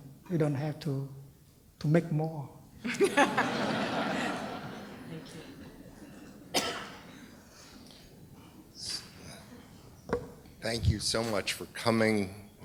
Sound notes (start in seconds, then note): 5.9 laughter